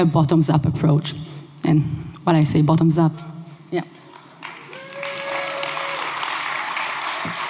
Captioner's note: applause